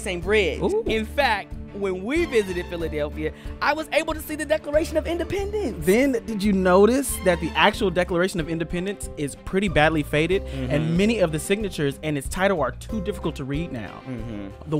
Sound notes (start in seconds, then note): none